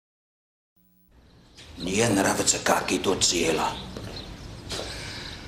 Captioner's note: speaking Russian